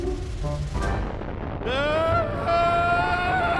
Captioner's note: screams